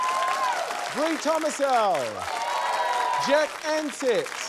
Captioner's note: cheering, applause